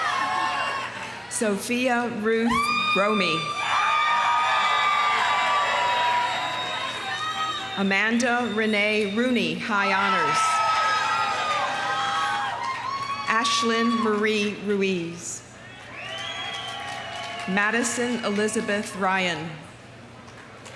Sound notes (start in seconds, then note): 0.0 audience applauding; 0.0 audience cheering; 2.5 audience cheering; 3.7 audience applauding; 9.8 audience cheering; 10.6 audience applauding; 15.6 audience cheering; 15.7 audience applauding; 20.5 audience applauding; 20.5 audience cheering